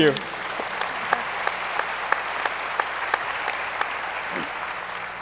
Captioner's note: speakers laughing; audience applauds